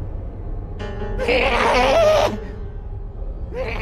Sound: more laughing; more laughing

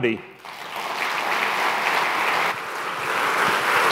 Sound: crowd applauding

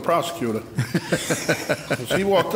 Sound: laughing

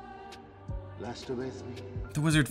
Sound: elvish

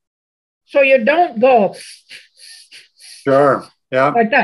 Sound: sniffling in and out

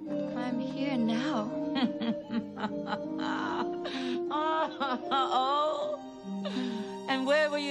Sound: bitter, disbelieving laughter

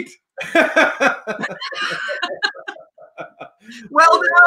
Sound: laughing

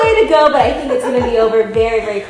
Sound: laughing

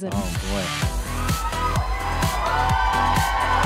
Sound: audience cheering

